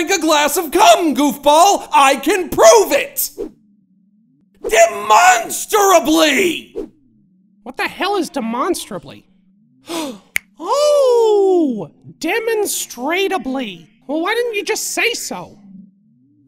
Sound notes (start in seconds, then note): 9.8 Goofball gasps